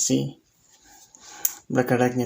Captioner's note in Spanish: Silencio